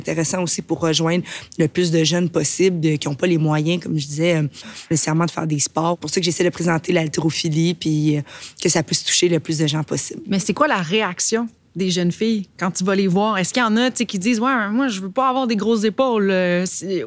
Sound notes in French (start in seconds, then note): none